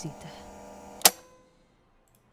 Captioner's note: tape ends